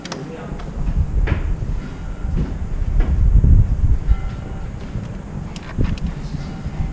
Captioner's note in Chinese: 鐘聲